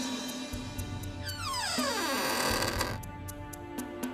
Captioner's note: door creaks